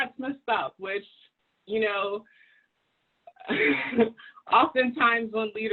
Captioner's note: laughs